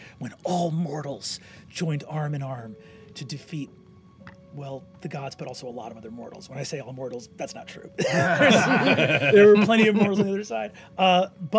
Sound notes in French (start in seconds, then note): 8.0 rires